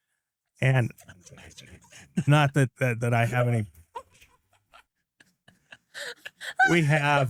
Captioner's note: laughing